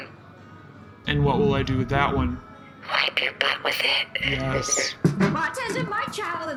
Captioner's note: whispering